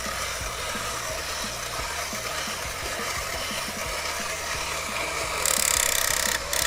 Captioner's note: mechanical noises